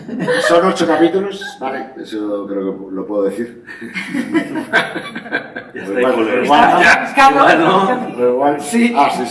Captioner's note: laughter